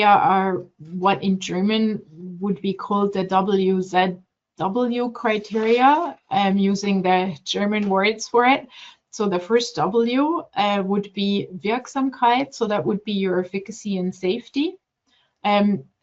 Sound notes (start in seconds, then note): 11.7 speaking German